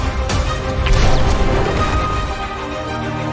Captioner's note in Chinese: 破碎声